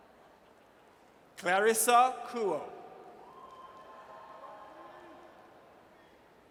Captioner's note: audience cheers